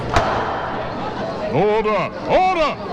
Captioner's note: gavel banging